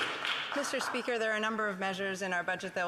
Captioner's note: applause